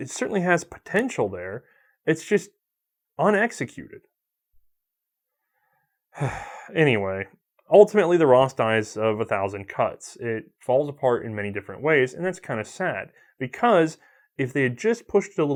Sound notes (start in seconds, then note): 6.1 sigh